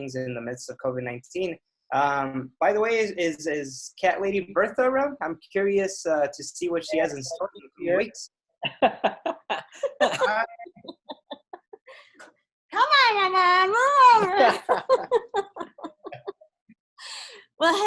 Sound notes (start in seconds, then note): 8.7 laughs; 16.6 laughs